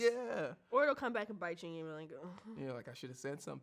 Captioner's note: sighs